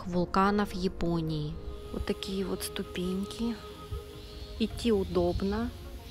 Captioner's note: normal voice